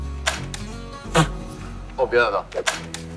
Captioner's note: laughing!